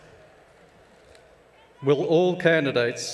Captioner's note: cheers and Applause